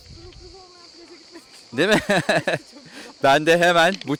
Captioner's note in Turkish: kahkaha